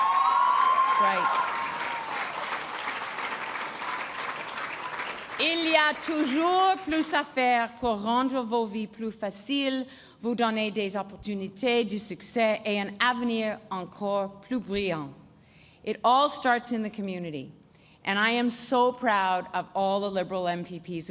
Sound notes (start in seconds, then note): 1.8 applause; 8.5 speaking in French